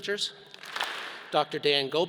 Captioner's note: all clap